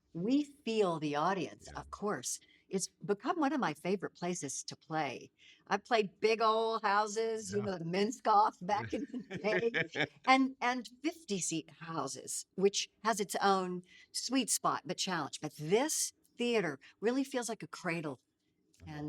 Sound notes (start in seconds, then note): 8.8 laughing